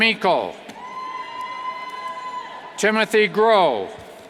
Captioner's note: cheers